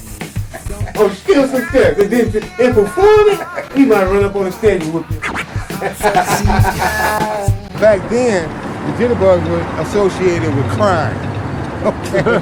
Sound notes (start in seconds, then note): 5.5 beep; 5.9 laughs